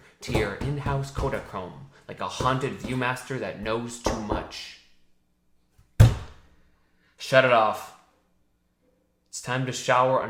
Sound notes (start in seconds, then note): 6.0 fist slums